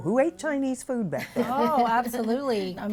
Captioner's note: laughter